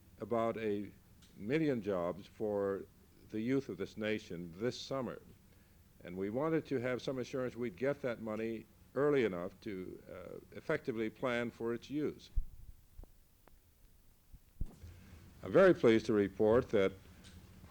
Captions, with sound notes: about a, million jobs for, the youth of this nation, this summer. And we wanted to have some assurance we'd get that money, early enough to, ah, effectively plan for its use. [No audio] I'm very pleased to report that,